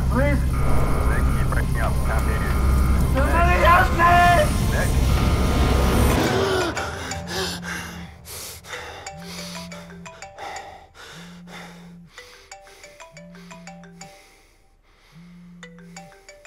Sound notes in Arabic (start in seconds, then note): 6.6 رنين الهاتف; 6.6 نيك يلهث